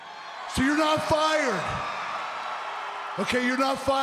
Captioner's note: crowd cheering